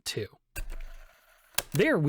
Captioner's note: FAST FORWARD NOISES Again